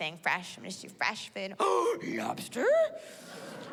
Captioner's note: gasps